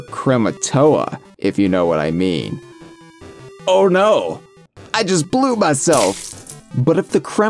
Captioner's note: splashing noises